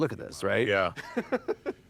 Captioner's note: laughs